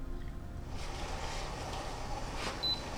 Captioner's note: coffee grinder whirs